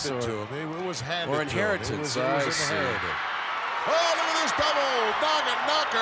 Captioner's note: applause